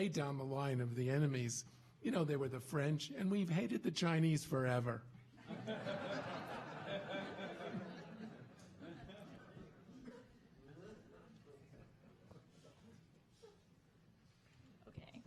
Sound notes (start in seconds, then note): 5.4 audience laughing